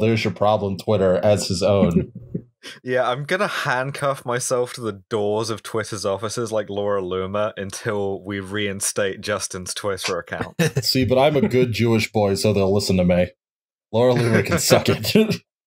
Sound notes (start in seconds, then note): 1.8 laughter